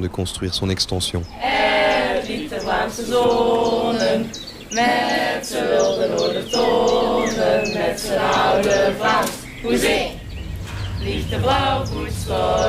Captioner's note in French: Chant KSA